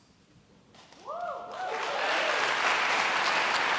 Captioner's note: cheering